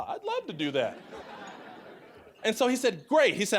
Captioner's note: audience laughing